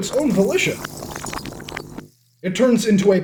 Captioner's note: magic crackles, then stops